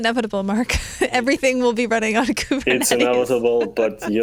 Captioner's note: laughing